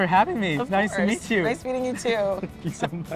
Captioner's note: John laughing